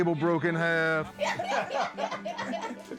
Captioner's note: laughter